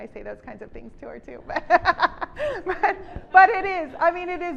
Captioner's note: laughs